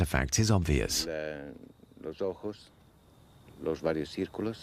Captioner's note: Spanish spoken audio